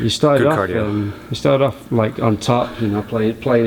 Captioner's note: voiceover